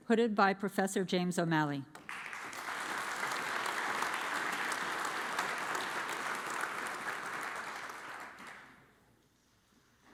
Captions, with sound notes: hooded by Professor James O'Malley. (audience applauds)